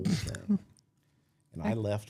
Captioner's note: hatted man chuckling